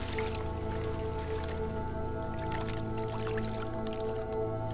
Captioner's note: water sloshing